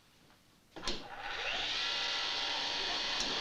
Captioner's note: whirring